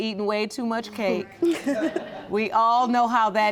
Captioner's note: laughing